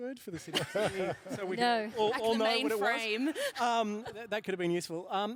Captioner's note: laughs